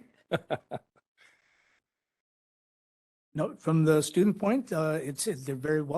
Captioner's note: laughing